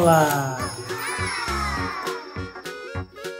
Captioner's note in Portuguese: Música ao fundo; exclamações de surpresa